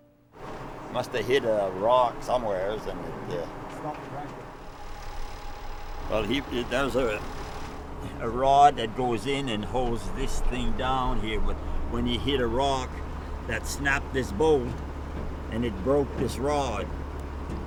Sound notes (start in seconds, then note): 4.6 tractor engine stalling